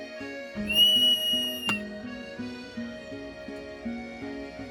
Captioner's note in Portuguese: Apito